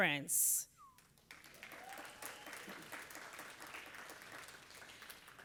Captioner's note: audience applauding